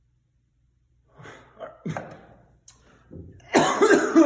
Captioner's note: coughs